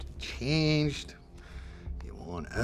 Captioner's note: scottish accent